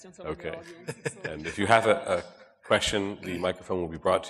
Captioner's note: chuckles